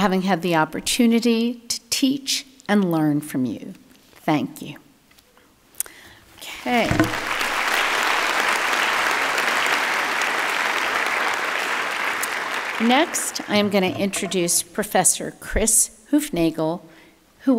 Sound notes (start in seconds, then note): 7.0 audience clapping